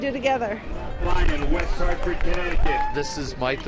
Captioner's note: competitor cheering